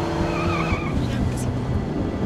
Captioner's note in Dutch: Alejandra mompelt